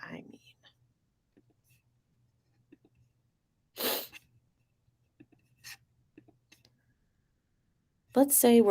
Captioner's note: clicking, scrolling